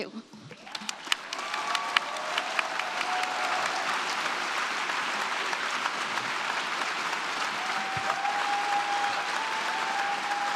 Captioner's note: applause